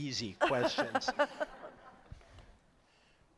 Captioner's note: laughter